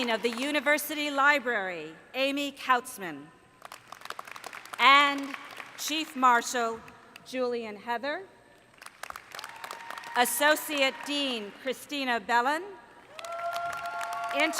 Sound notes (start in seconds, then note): 3.6 applause; 8.7 applause; 13.0 applause